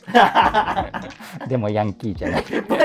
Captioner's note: laughing